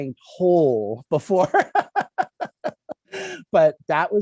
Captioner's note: laughs